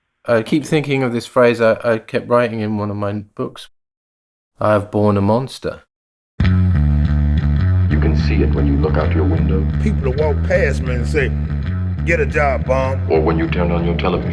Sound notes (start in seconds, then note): 7.9 soundbite of archived recording